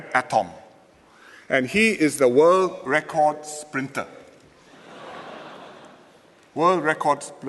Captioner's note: laughter